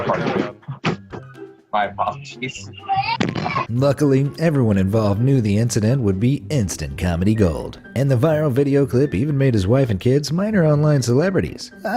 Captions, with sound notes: (background mumbling) Luckily, everyone involved knew the incident would be instant comedy gold, and the viral video clip even made his wife and kids minor online celebrities.